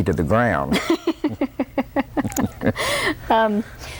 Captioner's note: laughter